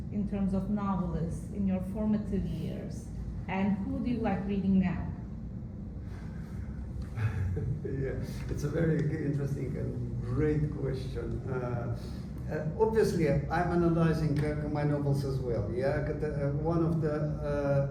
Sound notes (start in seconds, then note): 7.1 laughs